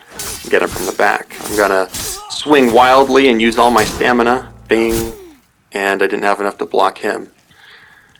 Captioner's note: bing!